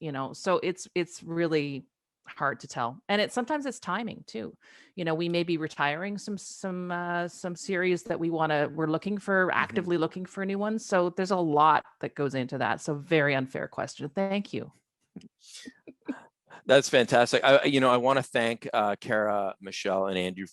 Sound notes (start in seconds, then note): 16.6 chuckles